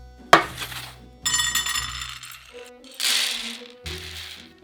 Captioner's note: pine nuts dropping